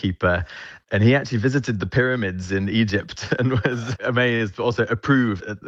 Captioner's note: chuckles